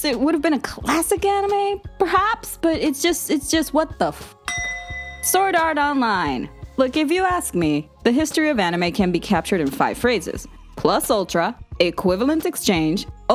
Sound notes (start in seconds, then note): 4.4 clanging